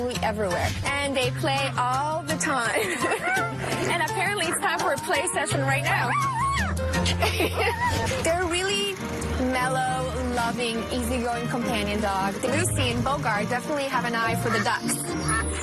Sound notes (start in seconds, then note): 2.7 laughing; 6.0 dog howling